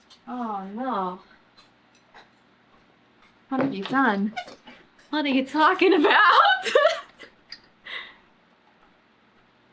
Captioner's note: laughs